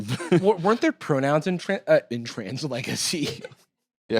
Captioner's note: laughs